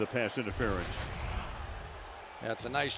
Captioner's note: swoosh